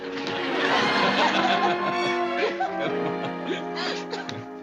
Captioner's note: laughter